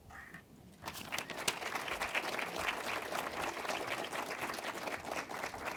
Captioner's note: audience applauding